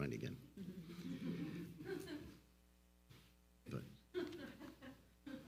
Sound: all laughs loudly

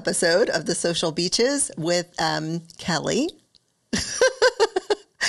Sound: laughs

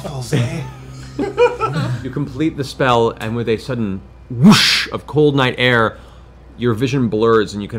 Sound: whoosh

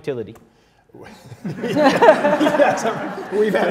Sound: laughs

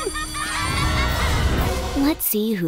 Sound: screaming

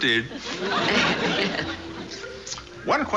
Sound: laughs

